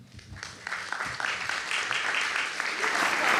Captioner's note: applause